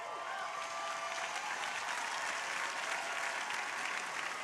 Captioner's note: crowd applauding